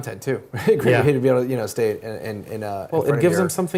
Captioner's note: laugh